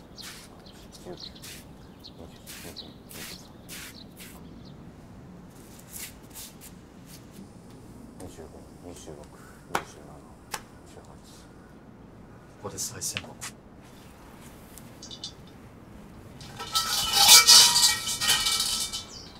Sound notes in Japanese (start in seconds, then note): 16.5 鈴の音